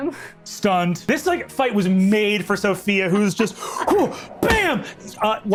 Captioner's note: grunts